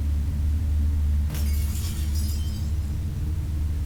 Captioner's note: glass breaking